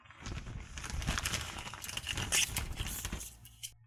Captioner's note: static resistant packaging rustling; RAM sticks clattering